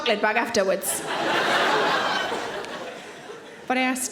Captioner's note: audience laughing